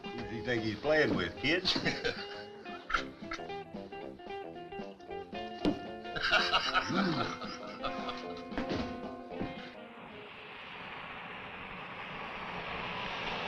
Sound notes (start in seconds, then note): 1.8 both chuckling; 1.8 lively music